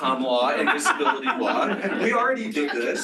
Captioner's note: laughter